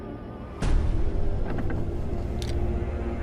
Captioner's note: door clicking; soft tense orchestral music